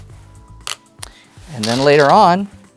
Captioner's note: stone rattling; stones rattling